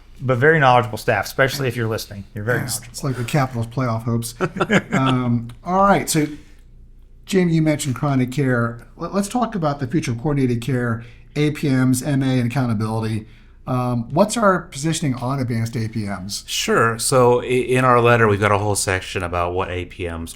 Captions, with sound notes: But very knowledgeable staff, especially if you're listening, you're very knowledgeable. It's like the capital's playoff hopes. (Laughing) All right, so, Jamie, you mentioned chronic care. Let's talk about the future of coordinated care, APMs, MA, and accountability. What's our positioning on advanced APMs? Sure, so, in our letter, we've got a whole section about what APMs